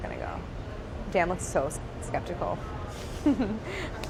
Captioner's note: laughs